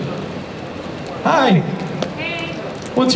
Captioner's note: voiceover